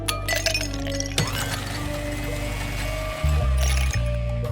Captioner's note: blender whirring